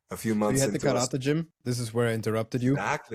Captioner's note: none